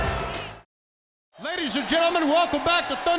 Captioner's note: crowd cheering